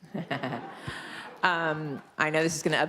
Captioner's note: laughing